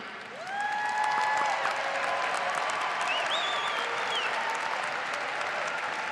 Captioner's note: audience applauding